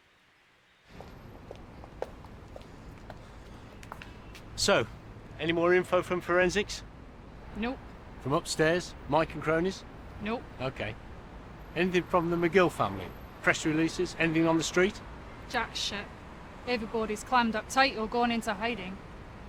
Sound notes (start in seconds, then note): none